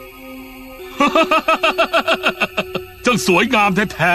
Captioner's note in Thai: หัวเราะ